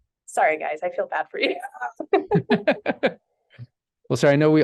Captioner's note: chuckles; chuckle